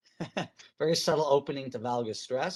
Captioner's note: chuckles